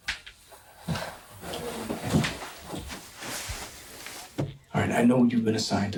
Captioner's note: footsteps thudding